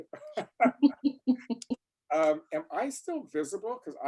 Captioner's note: laugh